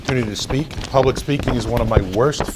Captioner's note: rustles papers